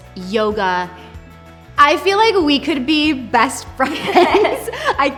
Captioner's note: laughs